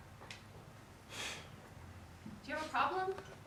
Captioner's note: sneers